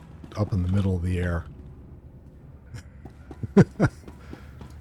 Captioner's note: laughs